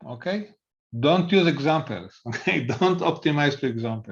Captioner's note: laughs